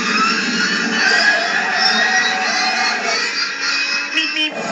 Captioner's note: Screech